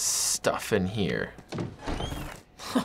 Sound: door creaks; chuckling

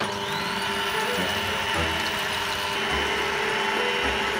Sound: mixer whirs

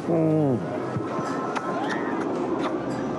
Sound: groans

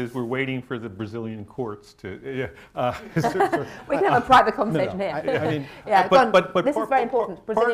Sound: laughter

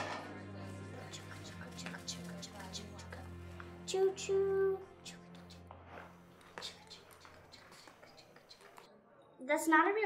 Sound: kid making train noises

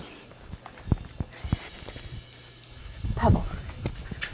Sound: footsteps

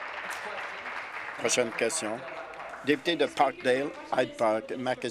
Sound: applause

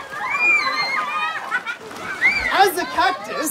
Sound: Obnoxious Child wails at Trevor; splashes

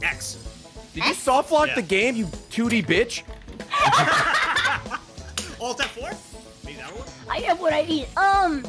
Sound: everyone laughs

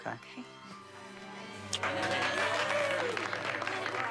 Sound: clasaps plauding

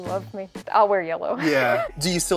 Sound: chuckles

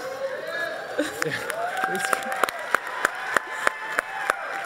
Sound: audience applauding

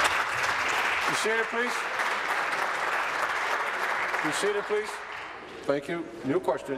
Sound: applause

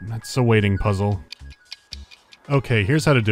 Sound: clocks ticking

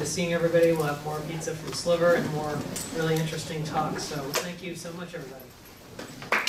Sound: clapping

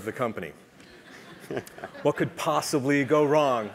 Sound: laugh

